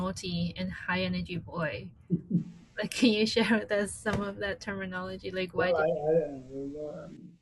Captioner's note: laughs